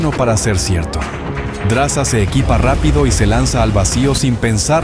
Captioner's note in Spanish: Explosión, sonido de tensión